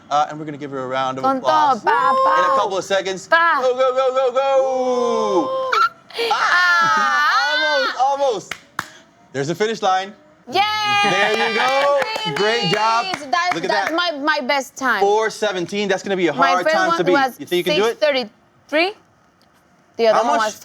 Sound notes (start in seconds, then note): 4.0 cheering